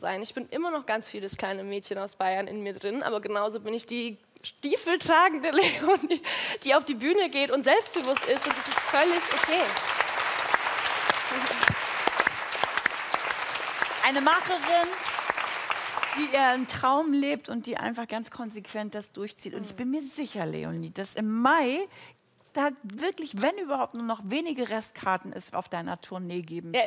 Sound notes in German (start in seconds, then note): 13.8 Applaus